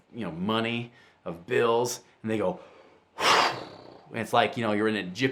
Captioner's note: exhales